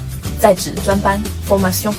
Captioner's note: in french